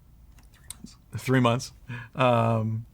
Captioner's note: whispers